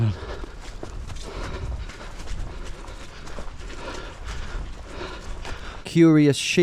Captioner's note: breathing heavily